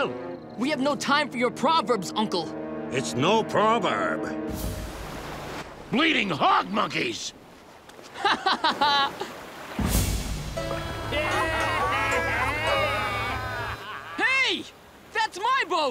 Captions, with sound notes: We have no time for your proverbs, Uncle. It's no proverb. Bleeding hog monkeys. [laughing] [laughing] Hey! That's my boat!